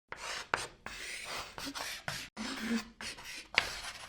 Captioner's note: chalk scratching